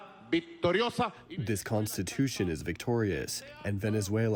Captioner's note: through translator